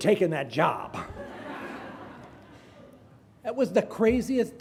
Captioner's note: graduates laughing